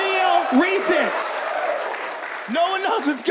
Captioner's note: audience laughs and claps